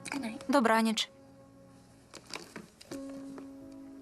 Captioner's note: computer keys clacking; cellphone ringing